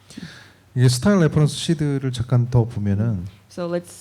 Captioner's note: speaking korean